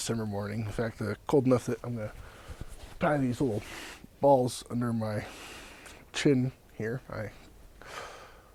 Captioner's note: sighs